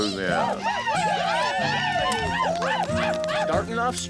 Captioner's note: cheering